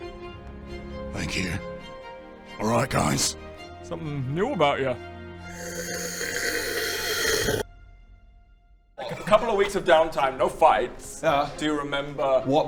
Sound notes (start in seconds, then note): 5.5 slurp